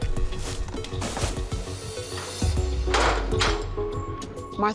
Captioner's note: none